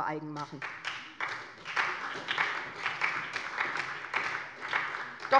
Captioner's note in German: Beifall bei der SPD